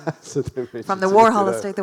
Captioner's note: laughs